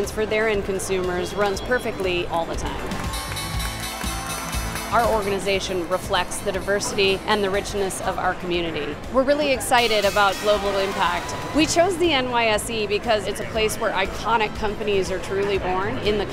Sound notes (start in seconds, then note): 3.0 bell ringing